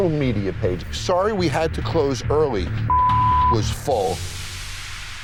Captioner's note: beep